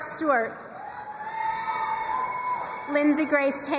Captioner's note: crowd cheering and applauding